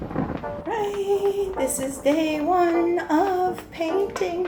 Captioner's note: thunder